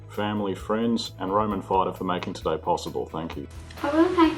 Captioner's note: speaks faintly